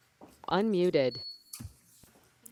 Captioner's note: automated Voice; button beeps